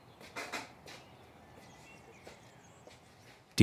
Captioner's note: birds chirping